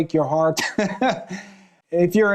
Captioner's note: chuckling